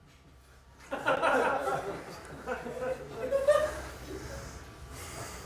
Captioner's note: laughter